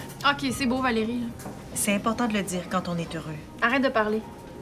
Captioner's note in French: none